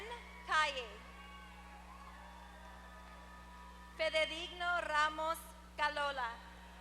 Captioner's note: applause